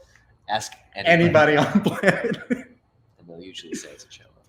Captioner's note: laughs